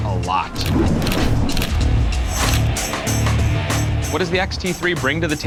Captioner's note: camera shutter clicking